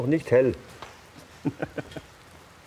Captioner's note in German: Er lacht leise